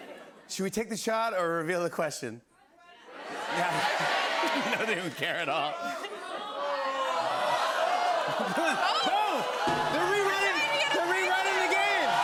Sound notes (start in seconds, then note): 3.3 audience shouting; 7.0 shouting continues